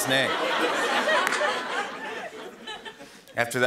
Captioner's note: laughter